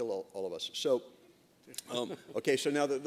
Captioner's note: laughter